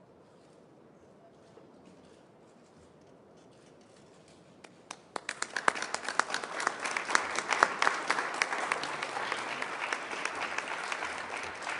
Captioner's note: pause, then applause